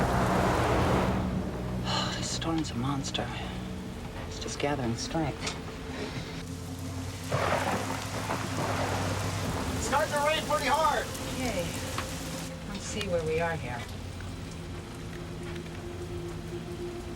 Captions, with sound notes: - (sighs) This storm's a monster. It's just gathering strength. (thunder claps) - It's starting to rain pretty hard! - Okay, let's see where we are here.